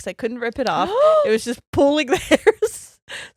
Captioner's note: laughing; gasps